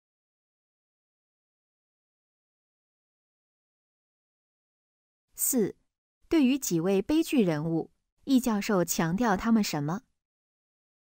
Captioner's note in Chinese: 空白_音频